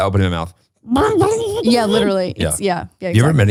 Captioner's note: grumbling